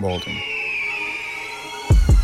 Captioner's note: eagle Screech